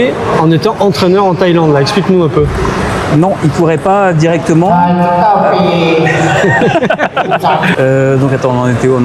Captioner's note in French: rires